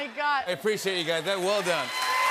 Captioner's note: cheers and applause